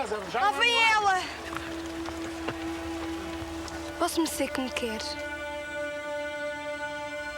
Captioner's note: speaking portuguese